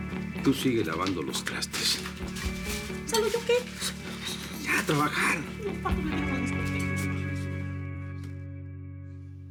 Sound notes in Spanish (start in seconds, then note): 4.3 Ella se queja